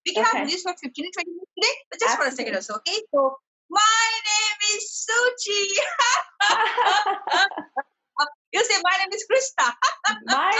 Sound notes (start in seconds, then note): 5.8 both laughs; 10.1 laughs